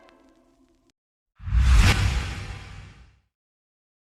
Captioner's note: whoosh